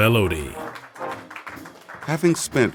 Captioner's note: applause